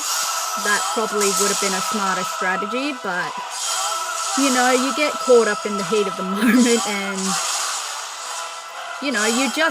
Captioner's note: laughter